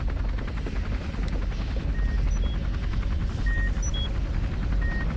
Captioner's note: machine beeping